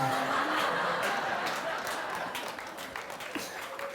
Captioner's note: laughter; cheers and applause